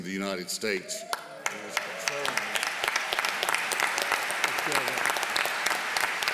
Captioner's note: applause